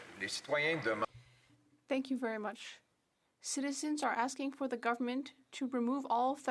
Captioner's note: speaking French